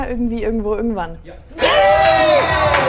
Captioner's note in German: Schrei